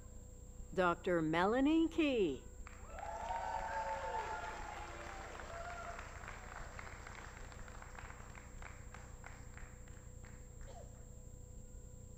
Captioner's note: applause